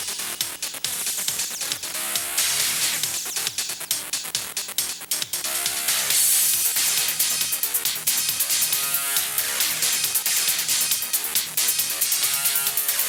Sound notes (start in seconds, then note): none